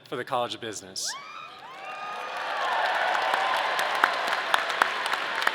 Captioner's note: audience cheering